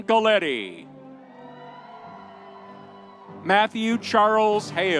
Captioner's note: audience cheering